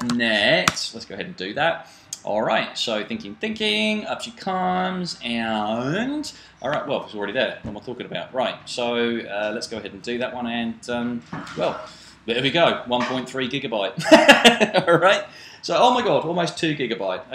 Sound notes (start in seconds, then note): 14.0 laughs